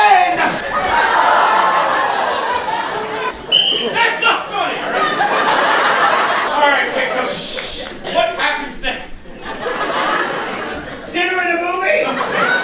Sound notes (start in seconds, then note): 0.2 audience laughs; 3.4 blows whistle; 10.1 laughs